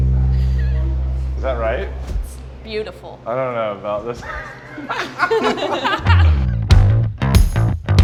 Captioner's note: laughs